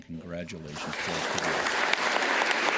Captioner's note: applause